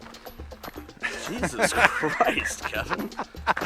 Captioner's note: laughing